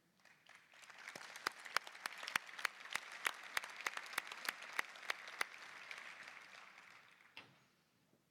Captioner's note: applause